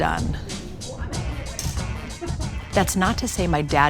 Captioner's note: family chattering